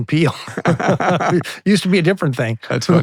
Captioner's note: both laughing